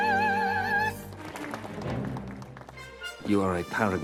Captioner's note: crowd applauding